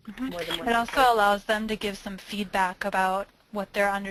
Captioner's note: voiceover